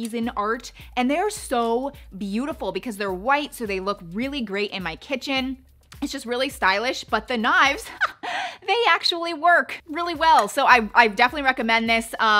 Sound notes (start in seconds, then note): 8.1 laughs